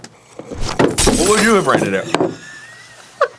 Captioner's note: crashing; laughing